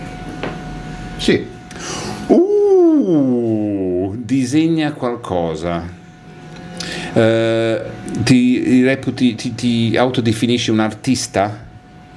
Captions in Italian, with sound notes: Sì. [sbuffare] Uh, disegna qualcosa, eh, ti reputi, ti autodefinisci un artista